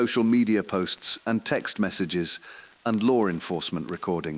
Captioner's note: exhale